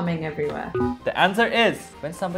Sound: bell beeping

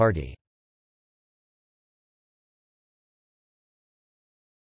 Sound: German speaking

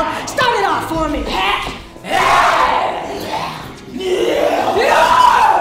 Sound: roaring

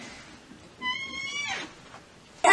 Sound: door creaks

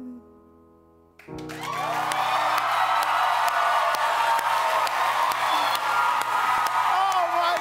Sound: audience cheers

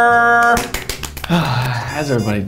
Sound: applauding

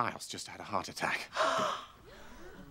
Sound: gasps

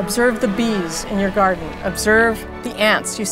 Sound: bee buzzing

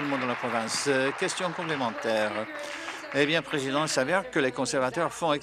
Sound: applause

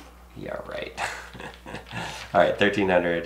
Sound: chucking

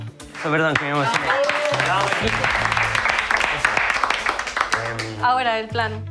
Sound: cheering & applause

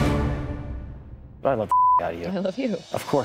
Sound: beep

